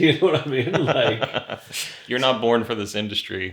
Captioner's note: laughs